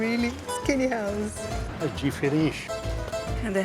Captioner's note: in Portuguese